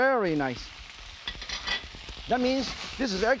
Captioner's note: vegetables sizzling